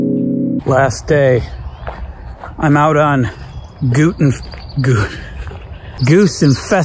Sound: dramatic music; chuckles

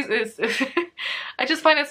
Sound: laughs

